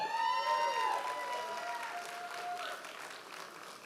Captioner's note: audience applause